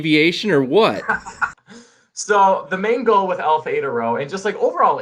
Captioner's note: laughter